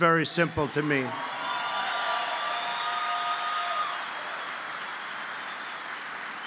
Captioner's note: applause